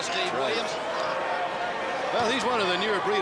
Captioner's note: crowd chatter